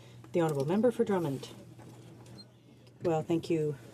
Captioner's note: speaking in french